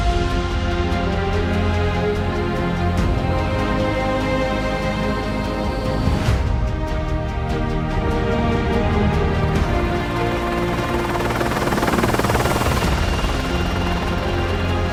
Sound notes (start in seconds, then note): 1.5 dramatic music playing; 9.6 helicopter whirring